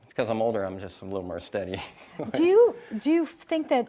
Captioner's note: chuckles